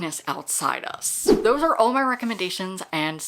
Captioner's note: whoosh